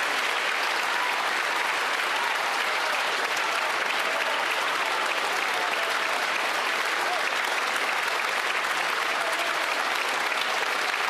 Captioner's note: applause